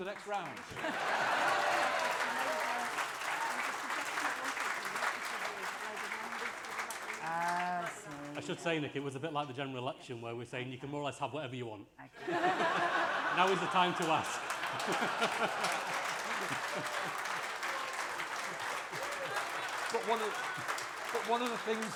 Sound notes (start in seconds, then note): 9.8 laughter and applause